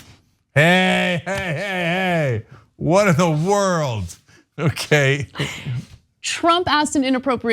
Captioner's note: laugh